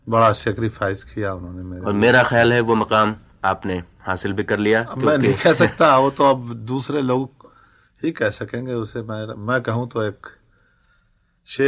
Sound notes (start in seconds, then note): 4.9 laughs